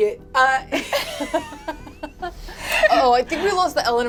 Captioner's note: all laugh